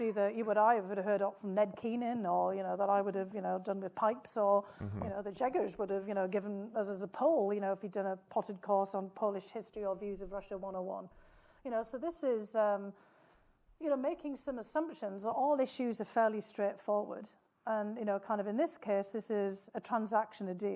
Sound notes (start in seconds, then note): 5.1 speaking foreign language